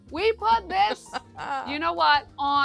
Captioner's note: laughs